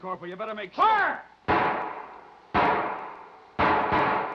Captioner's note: gun firing